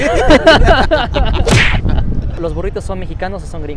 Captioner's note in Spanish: risas